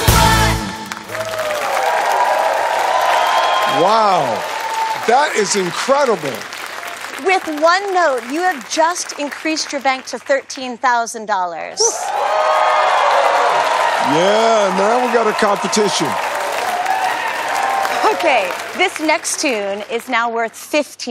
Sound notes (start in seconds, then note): 0.3 cheers and applause; 11.8 cheers and applause